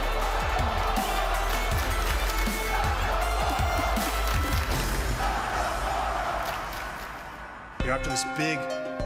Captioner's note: crowd cheering